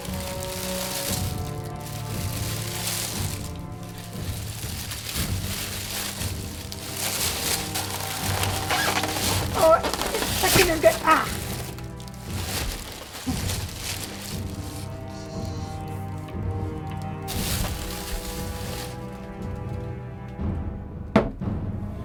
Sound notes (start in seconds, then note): 0.1 paper crinkles; 8.3 styrofoam squeaks; 12.7 paper crinkles; 13.8 tense music intensifies